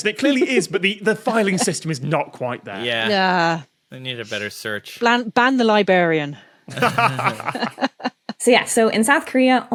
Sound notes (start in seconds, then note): 6.7 laugh; 6.7 laughs flatly